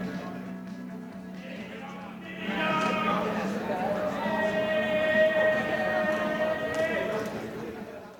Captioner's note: crowd noise; crowd chatter